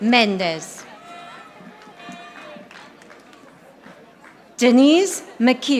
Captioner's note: audience applauding